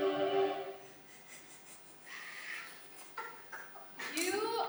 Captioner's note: Monokuma laughing